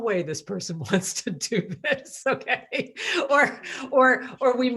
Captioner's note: laugh